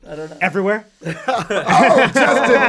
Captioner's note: all laugh